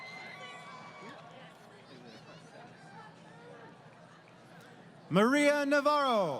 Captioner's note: crowd Cheering